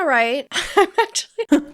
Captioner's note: laughing